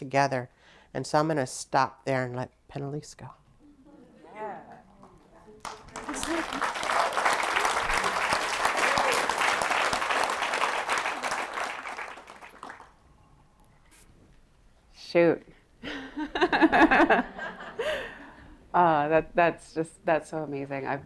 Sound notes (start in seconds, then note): 5.5 applause; 15.9 laughter